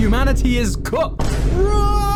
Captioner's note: boom